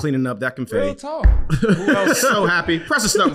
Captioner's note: laughing